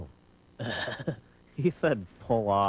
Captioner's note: chuckles